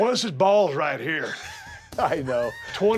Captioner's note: laugh